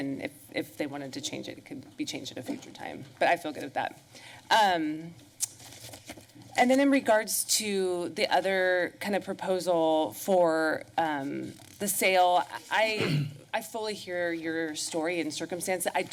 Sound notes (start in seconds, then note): 5.4 smacks lips